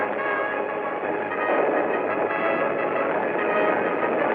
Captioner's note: hooves thundering